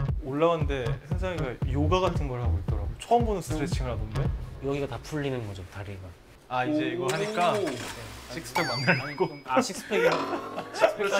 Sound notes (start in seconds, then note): 6.3 vroom